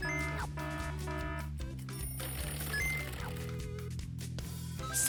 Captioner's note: alarm rings